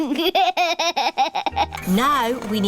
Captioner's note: chuckles